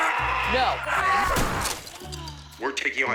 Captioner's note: Karen sighs; TV crashes